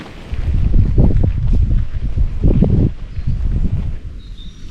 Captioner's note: wind